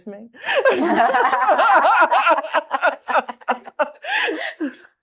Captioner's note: all laughing